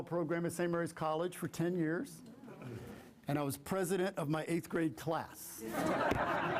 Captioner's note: laughter